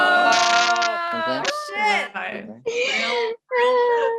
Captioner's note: all jeering